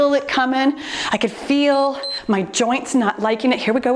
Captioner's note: timer beeps